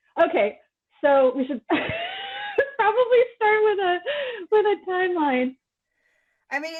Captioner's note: wheeze laugh